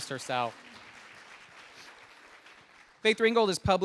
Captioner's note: audience applauding